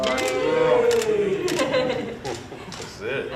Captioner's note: cheering